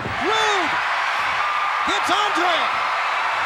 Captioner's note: crowd cheers